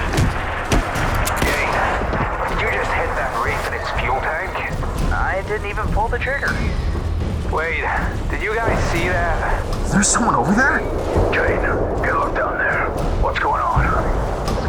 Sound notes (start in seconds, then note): 1.7 over comms; 11.4 over comms